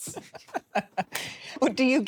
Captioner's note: laughs